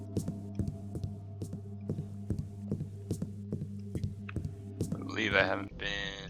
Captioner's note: moderately loud footsteps on wood